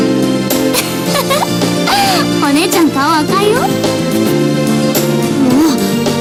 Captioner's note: laughs